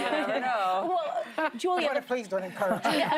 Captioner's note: laughter